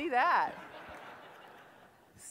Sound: laughter

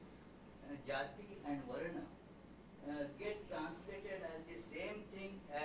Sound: non-english

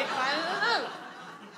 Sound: audience laughs

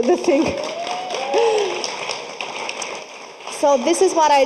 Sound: audience applauding

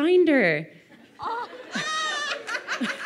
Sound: laughing

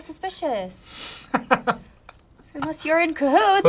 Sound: laughs

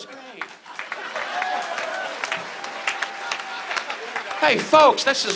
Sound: audience laughs

